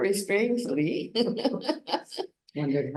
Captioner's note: laughs